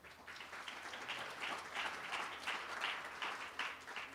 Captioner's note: applause